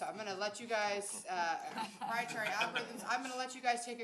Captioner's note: laughing